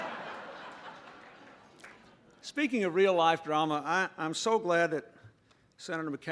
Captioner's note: laughter